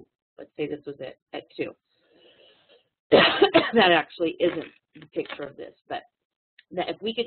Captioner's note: cough